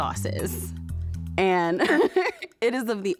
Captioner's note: laughs